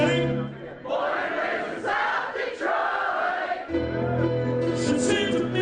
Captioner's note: crowd